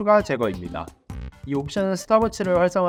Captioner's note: Stopwatch